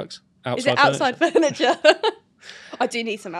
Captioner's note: laughs